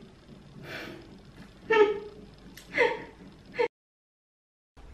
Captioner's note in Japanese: 笑笑